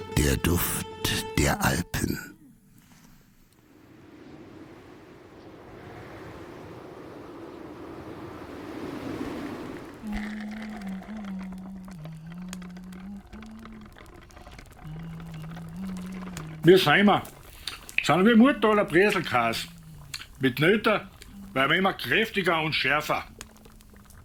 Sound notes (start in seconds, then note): 4.8 winds howling; 10.5 humming